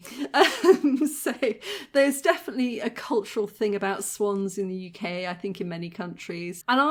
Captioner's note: laughing